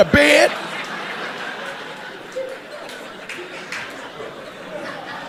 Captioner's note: audience laughing